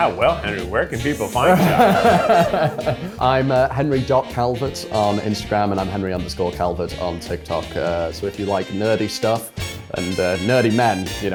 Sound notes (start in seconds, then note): 1.0 laughing